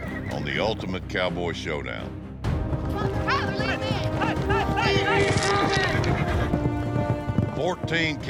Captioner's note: shouting, wrangling